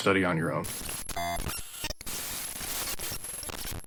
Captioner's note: glitching noises